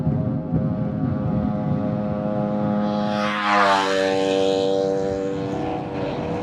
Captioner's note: motorcycle; train horn